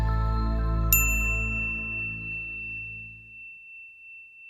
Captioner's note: logo dings